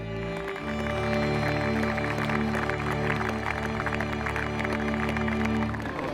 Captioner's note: crowd clapping; soft orchestral music